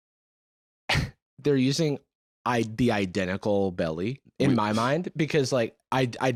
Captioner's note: laughs